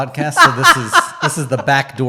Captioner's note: laughing